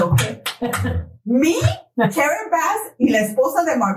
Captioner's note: laugh